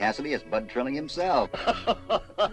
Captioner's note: guffaws